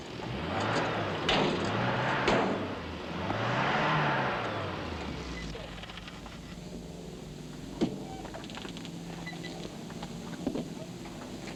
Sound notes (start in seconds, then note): 0.1 engine revs; 5.0 engine stalls